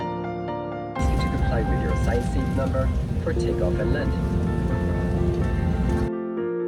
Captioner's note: recorded PA